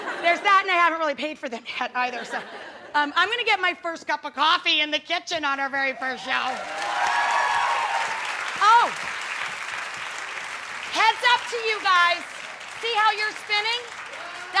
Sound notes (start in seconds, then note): 6.5 audience applauding